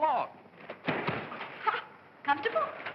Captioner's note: thump; girl laughs